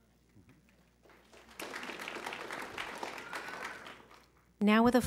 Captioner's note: applause